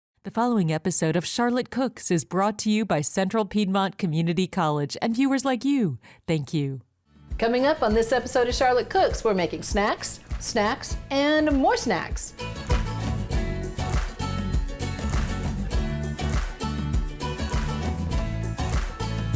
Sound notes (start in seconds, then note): 11.4 audience rhythmically claps; 12.4 upbeat swing music